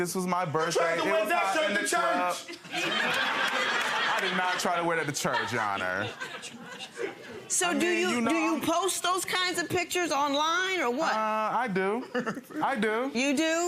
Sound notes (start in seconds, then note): 2.8 audience laughing; 12.0 laughing